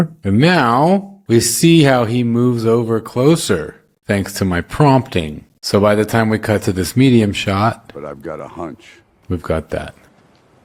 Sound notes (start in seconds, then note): none